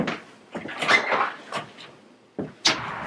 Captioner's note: door opens